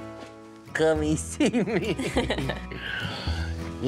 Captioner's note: chuckles